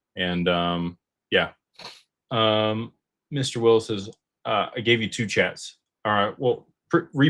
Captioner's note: snorts